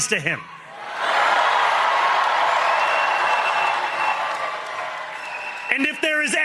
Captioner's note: cheering